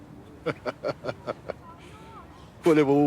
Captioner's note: he chuckles